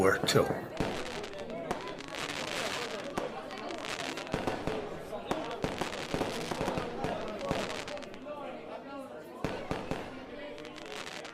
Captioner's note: fading fireworks and conversation